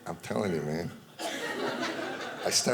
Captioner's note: audience laughing